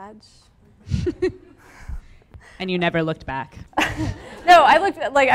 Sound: laughs

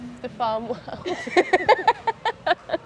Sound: laughing

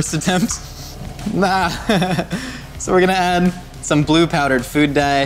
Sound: laughing

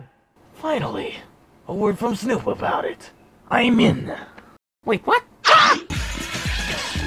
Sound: scream

